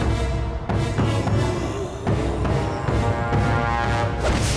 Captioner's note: groaning